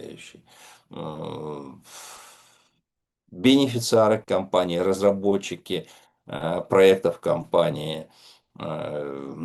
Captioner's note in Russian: вздыхает; тяжело вздыхает